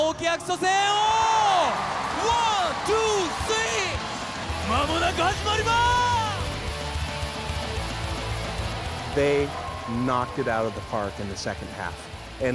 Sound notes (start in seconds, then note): 0.9 cheering; 3.8 speaking japanese